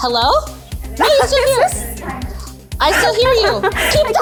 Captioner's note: laughs